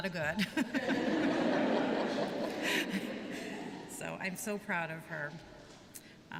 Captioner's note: laughter